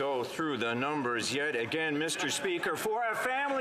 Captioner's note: some Applause